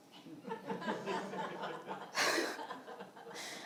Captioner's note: laughing